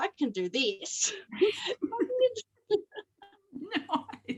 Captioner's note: both laugh